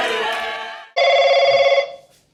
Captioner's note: phone ringing